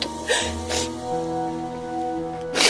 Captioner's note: sobs